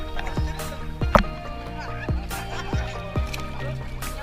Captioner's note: laughter; background music